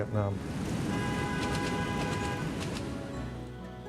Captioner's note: honking